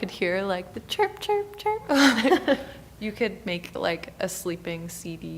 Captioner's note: laughing